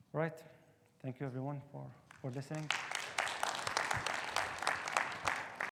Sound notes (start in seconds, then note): 2.1 audience applauding